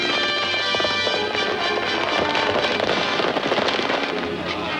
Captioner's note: upbeat music; horse galloping